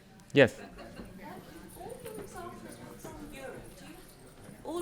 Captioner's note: speaks off microphone